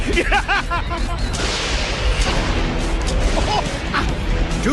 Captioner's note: laughing; thunder cracks